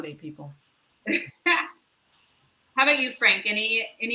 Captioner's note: laugh